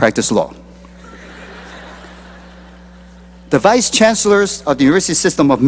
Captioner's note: laughter